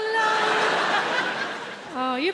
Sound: audience laughing

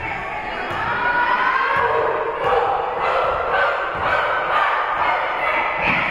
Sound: Queensborough performing team chant

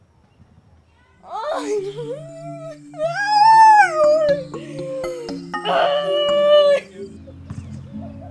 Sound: incoherent whining

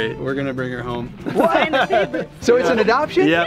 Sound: laughs

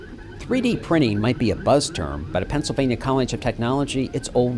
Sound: machine noise

